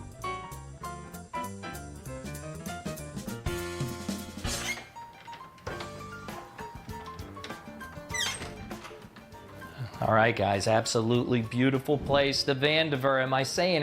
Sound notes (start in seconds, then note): 4.2 door squeaks